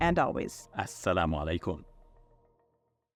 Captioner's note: speaking Arabic